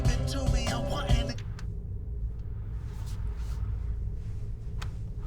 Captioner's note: radio clicks